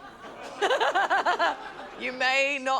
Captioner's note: laughs